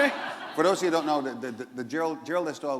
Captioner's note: laughter